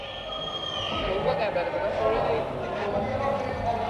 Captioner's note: all chattering; indistinct chatter